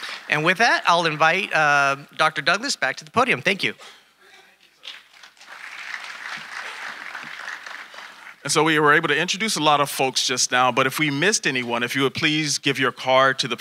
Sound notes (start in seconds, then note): 0.0 audience applauding; 4.9 audience applauding